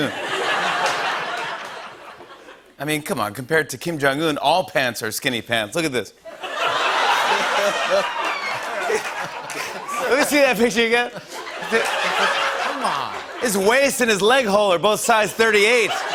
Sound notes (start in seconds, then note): 0.0 laughter and applause; 6.3 laughter and applause